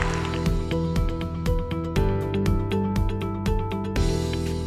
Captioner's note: cheers and applause